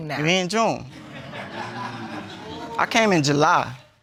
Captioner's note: audience laughs